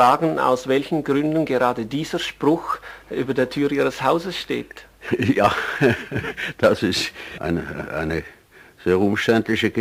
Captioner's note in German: lacht